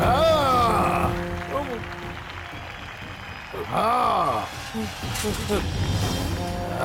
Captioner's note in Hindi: तालियाँ